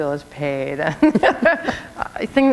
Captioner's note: chuckle